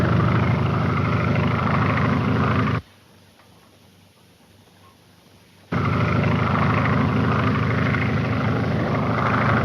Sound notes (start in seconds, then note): 5.6 plane engine roars